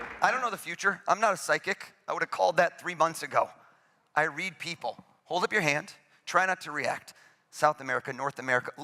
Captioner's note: applause